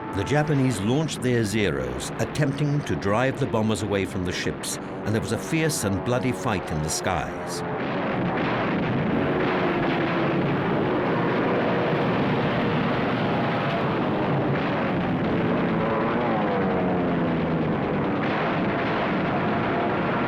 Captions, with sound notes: The Japanese launched their Zeros, attempting to drive the bombers away from the ships, and there was a fierce and bloody fight in the skies. (plane engines roar) (gunfire)